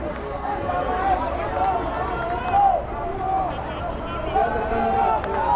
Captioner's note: players yelling